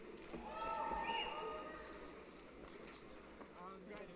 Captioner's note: cheering